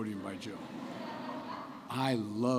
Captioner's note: laughter